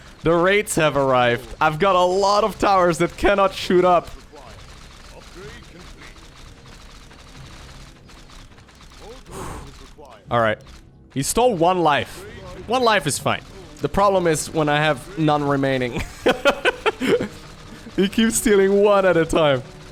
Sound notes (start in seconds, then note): 9.2 exhales; 15.9 laughs